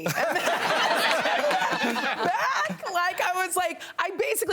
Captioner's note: all laughing